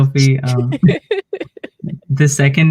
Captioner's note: laughs